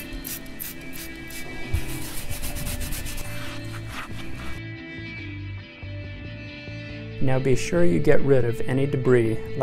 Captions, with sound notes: (product spraying) (scrubbing and scraping) Now be sure you get ride of any debris